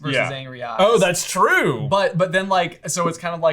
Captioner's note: none